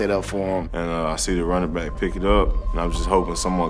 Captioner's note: voiceover